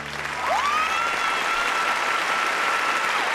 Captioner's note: cheering and applause